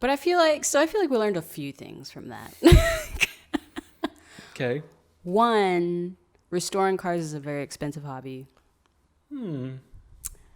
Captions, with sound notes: So I feel like we learned a few things from that. (laughing) - Okay. - One, restoring cars is a very expensive hobby. - Hmmm.